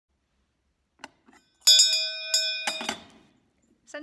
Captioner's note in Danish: Klokke ringer